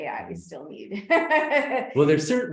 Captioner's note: laughs